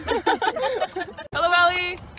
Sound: laughing

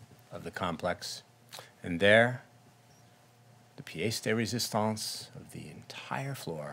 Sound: speaking in foreign language

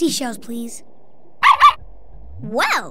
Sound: barking

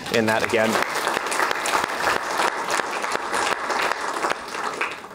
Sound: applause

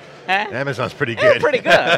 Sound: laughs

